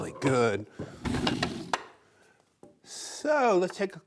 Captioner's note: wood slabs clinking